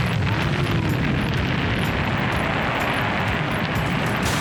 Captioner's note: explosion